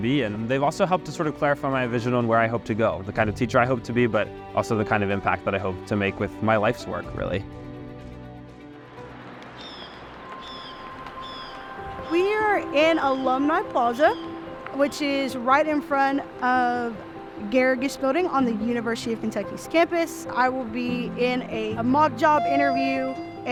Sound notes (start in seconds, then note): 9.5 birds chirping; 9.7 soft music